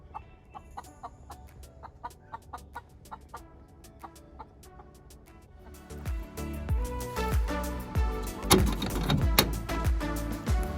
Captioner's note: chicken making noises